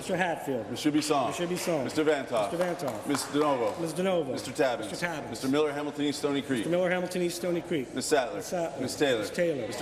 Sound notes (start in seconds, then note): 0.8 applause